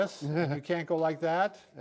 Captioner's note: chuckles